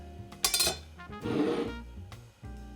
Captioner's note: bowl sliding